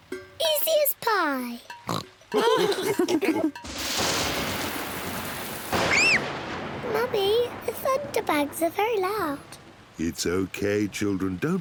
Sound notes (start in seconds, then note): 1.8 oinks; 2.3 all laughing; 4.0 thunder rumbles; 5.8 screams